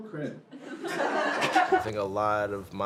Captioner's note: audience laughs